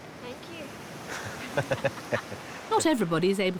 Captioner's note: laughs